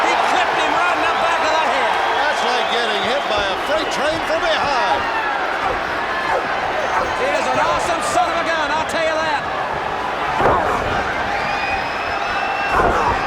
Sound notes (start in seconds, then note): 0.0 body thudding; 5.6 blows thudding; 9.7 body thudding; 13.0 wrestlers grunting